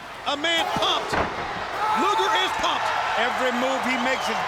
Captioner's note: Luger yelling